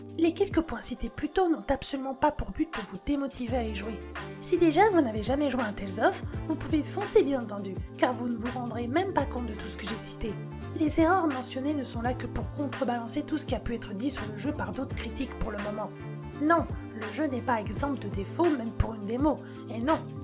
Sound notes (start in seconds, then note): 15.1 french